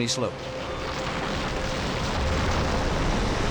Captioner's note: crashing rock